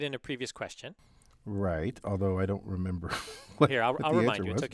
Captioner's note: laugh